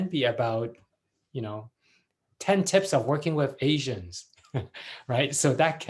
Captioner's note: laughs